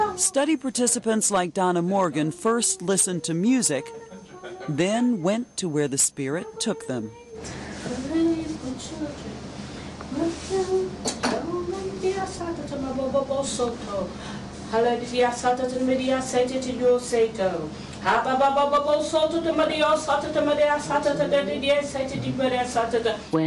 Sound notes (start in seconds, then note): 7.7 speaking in tongues